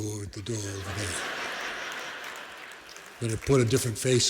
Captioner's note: laughter